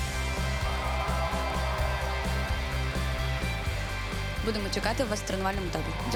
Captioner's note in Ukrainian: оплески